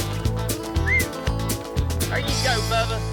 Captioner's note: whistles